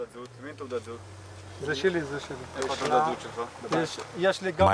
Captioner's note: Hebrew spoken audio